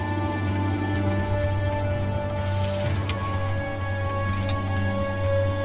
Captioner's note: chains rattling